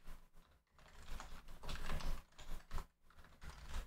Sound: typing

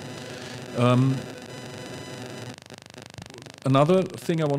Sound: microphone static

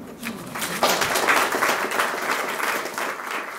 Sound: applause

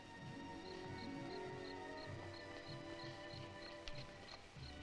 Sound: Sammy speaks gibberish; critters chittering

